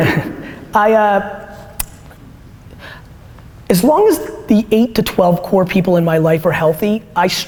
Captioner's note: Gary laughs